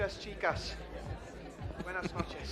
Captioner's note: Tertawa; spanyol